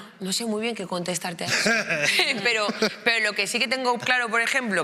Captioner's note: laughing